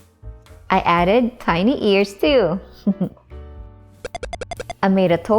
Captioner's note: chuckles